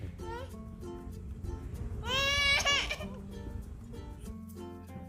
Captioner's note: baby sounds